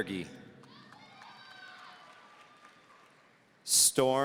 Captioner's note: audience cheering